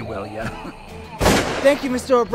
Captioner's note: gun firing